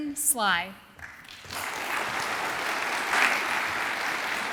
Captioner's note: audience applauds